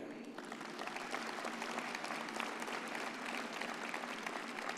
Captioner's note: graduates applaud